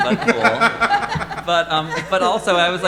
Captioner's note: all laughing